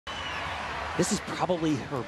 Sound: crowd cheering

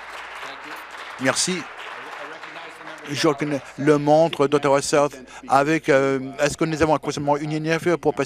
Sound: applause

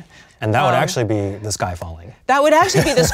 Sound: laughs

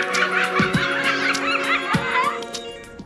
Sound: laughing

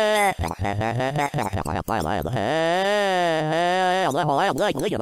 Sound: throatal noises

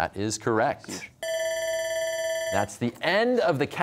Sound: bell ringing

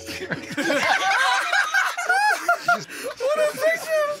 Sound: laughter

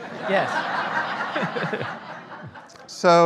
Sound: audience laughing

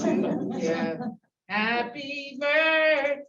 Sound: laughter

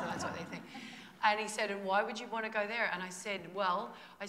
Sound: laughter

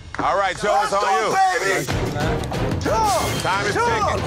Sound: hands clapping

